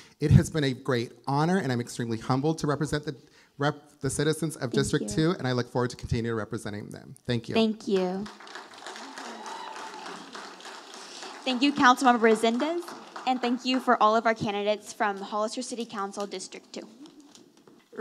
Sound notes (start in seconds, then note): 9.7 audience applauding